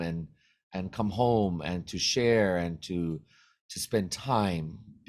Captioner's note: none